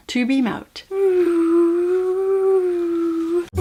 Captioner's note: whooo